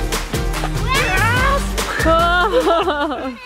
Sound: screaming

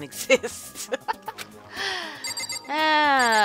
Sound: laughs

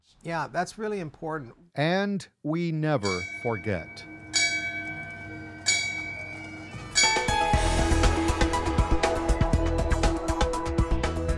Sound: sounds of bell ringing one by one

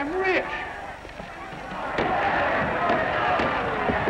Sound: cheering

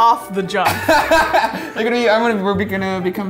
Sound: laughs

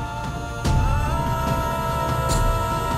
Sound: emotional vocalising

